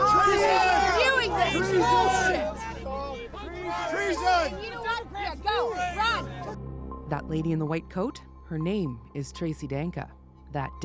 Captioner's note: yelling